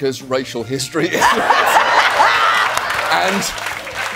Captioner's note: laughing